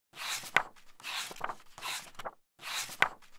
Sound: pages turning

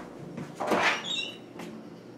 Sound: door opens

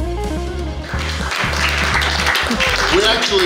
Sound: background clapping

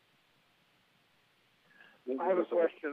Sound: off-mic

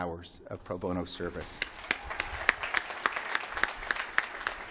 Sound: applause

